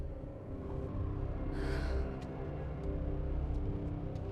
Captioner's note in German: seufzt